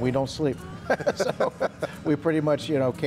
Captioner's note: laughs